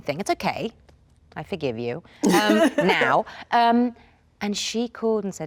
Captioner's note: Oprah laughs